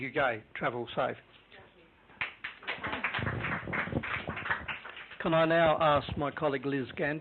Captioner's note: clapping